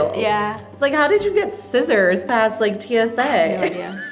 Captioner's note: laughs